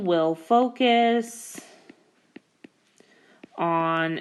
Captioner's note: keyboard Tapping